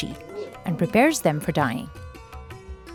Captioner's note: speaking foreign language